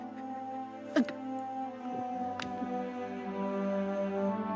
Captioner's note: Theckla chokes